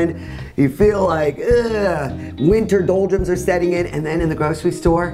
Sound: groans

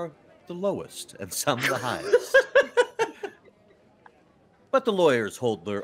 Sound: laughing

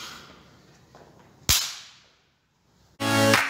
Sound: slap of high-5

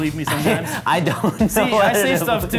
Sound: laughs

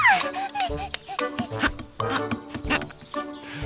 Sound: squeals excitedly

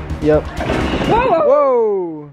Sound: water splashing

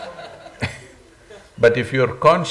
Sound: laughter

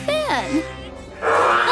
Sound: shrieks

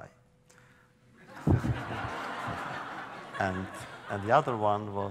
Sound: laughter

